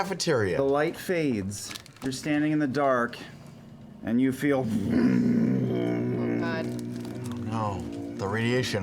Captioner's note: deep humming